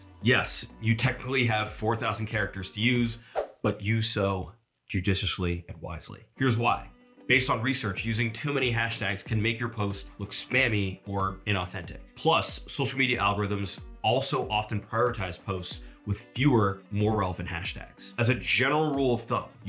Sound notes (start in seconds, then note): 3.3 screen whooshing